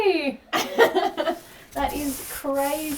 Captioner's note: laughing